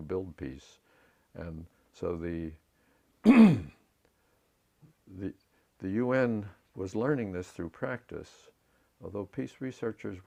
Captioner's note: cough